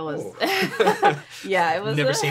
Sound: laughing

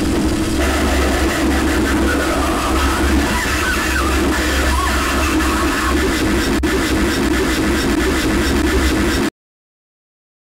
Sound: maniacal laughter

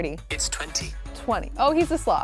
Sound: voice On Phone

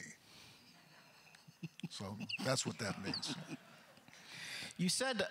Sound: chuckles

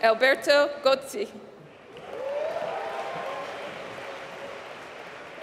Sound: applause

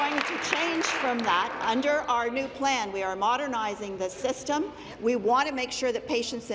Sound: applause

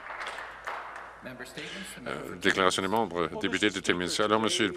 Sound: some Applause

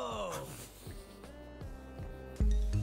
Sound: laughs

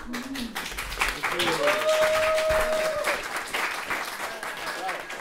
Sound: applause from audience

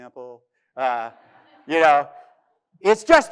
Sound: audience laughing

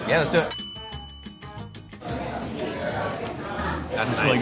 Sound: bell dings

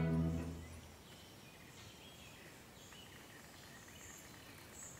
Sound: birds chirping

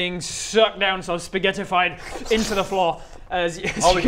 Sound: slurp

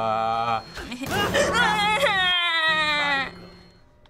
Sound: whining

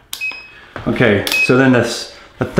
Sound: machine beeps

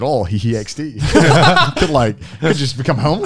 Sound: all laughing

